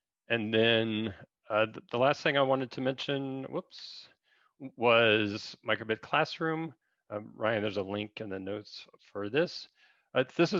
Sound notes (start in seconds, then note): none